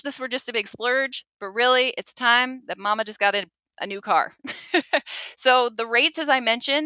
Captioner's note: laughs